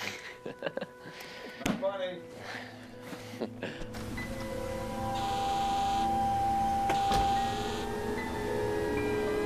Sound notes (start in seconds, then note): 0.0 laughs; 4.5 emergency horns